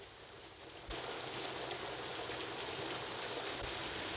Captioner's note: rain pattering